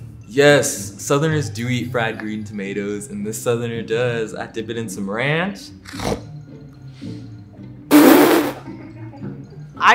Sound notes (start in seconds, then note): 5.8 snorting; 8.2 laughing